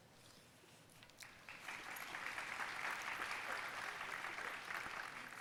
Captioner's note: audience applauding